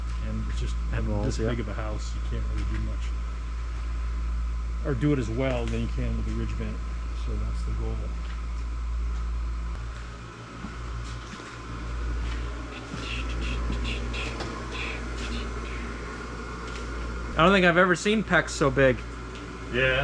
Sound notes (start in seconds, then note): 13.7 clicks tongue